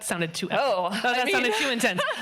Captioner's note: laughing